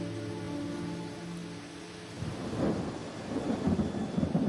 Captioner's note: thunder rolling